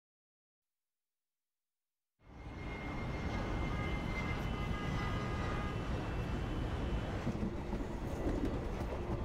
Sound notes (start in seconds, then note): 2.3 vehicles honking in distance; 7.2 train rumbling